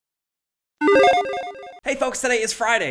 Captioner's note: logo dinging